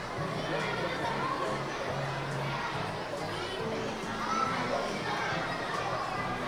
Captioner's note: audience chattering continues